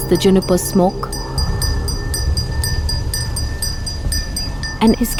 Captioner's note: sombre music; bell jingling